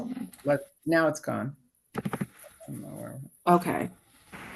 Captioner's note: faintly speaking